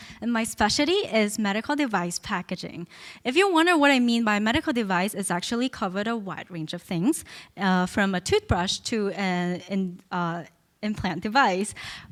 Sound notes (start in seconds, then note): none